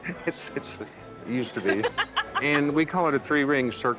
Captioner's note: laughs